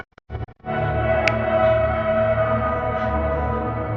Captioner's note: snaps